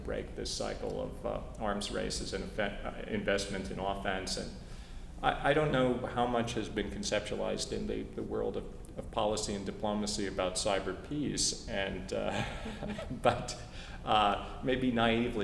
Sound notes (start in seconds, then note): 12.3 laugh